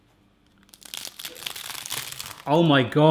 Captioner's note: crunch